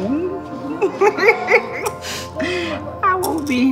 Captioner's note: laughs